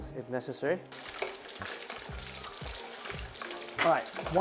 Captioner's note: sizzling sound